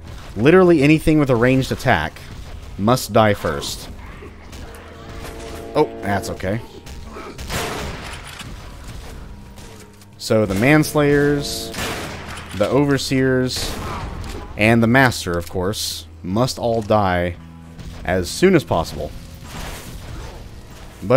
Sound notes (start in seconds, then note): 4.2 Railgun chargeup; 7.3 bam; 11.2 bam